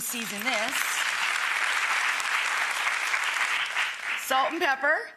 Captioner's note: audience applauding